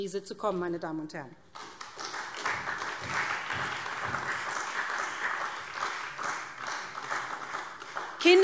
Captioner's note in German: Beifall SPD und Freie Demokraten